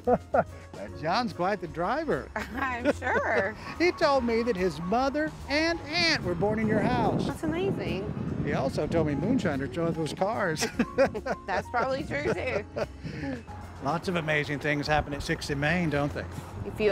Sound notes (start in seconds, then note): 2.4 laughs; 10.6 laughs